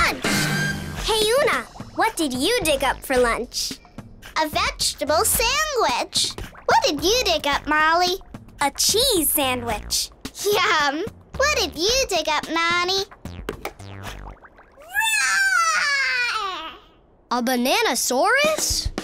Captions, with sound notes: Hey Oona, what did you dig up for lunch? A vegetable sandwich! What did you dig up, Molly? A cheese sandwich! Yum, what did you dig up Nonny? [roaring] A banana-saurus?